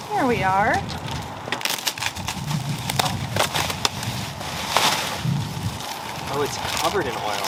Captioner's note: plastic unwrapping